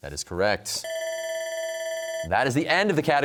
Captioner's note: bell rings